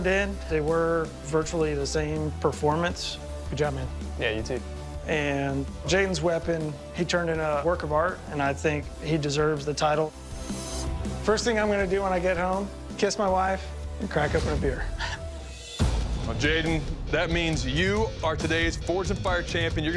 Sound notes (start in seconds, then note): 14.8 laughs